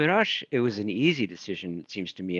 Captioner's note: speaking in foreign language